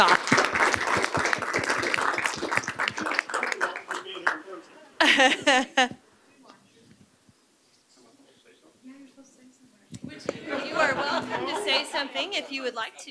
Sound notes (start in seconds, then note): 2.2 applause